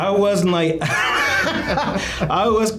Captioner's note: both laughing